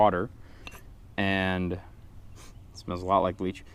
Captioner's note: sniff